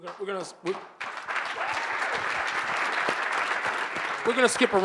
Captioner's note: audience applauding